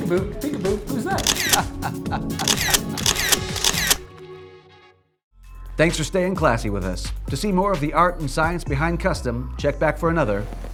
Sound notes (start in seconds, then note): 1.1 laughs; 2.4 camera shutters